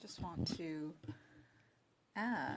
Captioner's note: speaking French